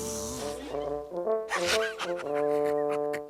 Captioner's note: laughing